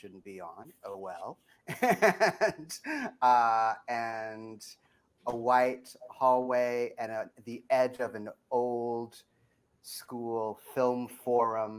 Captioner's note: laughs